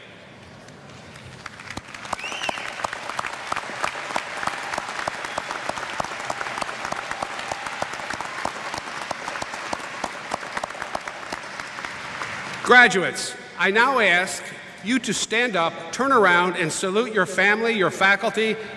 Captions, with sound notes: [ Cheers ] [ Applause ] Graduates, I now ask you to stand up, turn around, and salute your family, your faculty,